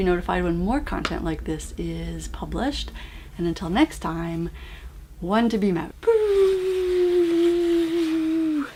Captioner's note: whoooo